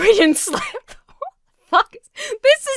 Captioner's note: Emma giggles breathlessly